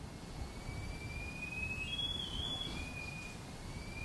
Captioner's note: beeping